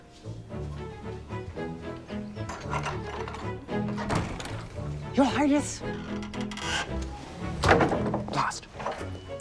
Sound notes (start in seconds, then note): 0.3 upbeat music; 2.0 door rattling